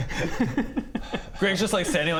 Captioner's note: evil giggle